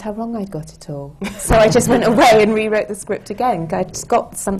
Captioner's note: laughter